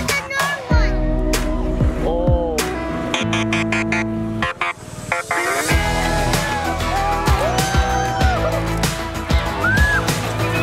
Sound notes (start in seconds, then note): 3.7 police siren; 6.2 exciting music